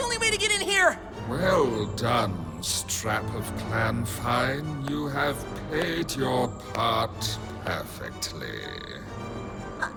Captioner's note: slow claps